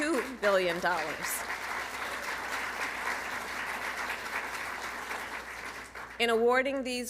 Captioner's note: applause